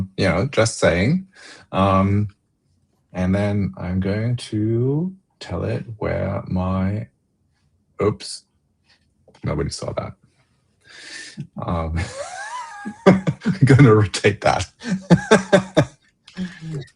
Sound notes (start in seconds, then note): 11.9 laughter